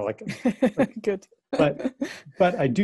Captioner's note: lacht